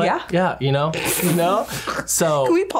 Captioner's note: laughs